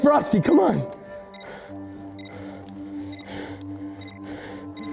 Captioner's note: beeping continues